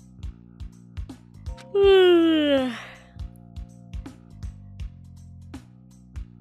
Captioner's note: yawn